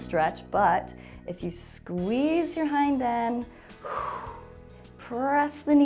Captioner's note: exhales